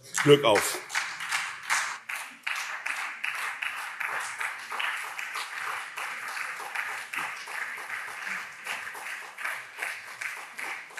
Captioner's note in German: Beifall SPD und CDU